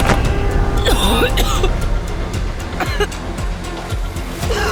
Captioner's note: body thuds; hand strikes; Sarah coughs